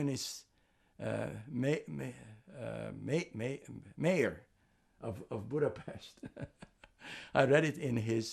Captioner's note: laughing